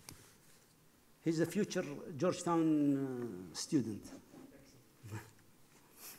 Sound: laughs

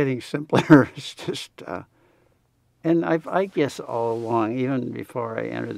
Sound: laughs

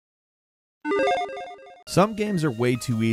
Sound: electronic chiming

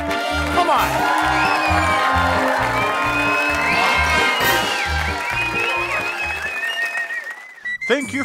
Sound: cheering

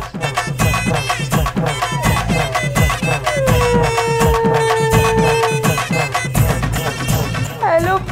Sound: crying

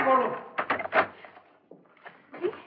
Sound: door Opens

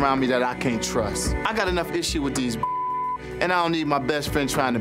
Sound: beep

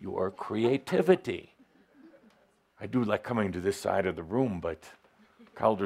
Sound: laughter as ducks below a speaker

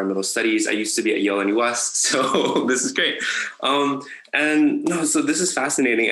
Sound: laughs

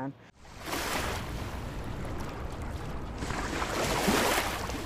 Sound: water splashing

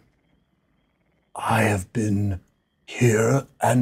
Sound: deep voice

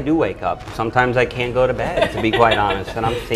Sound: laughs

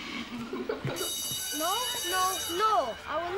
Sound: children laughing

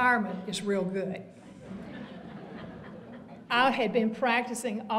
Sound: audience laughter

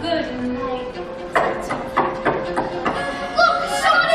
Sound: knocking

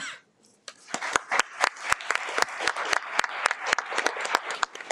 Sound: audience clapping

